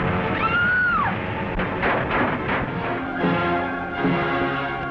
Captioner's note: Jean screaming